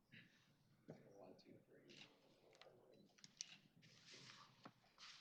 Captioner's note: camera shutter snapping